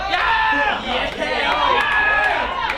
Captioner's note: applause and cheer